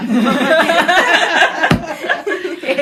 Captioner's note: laughter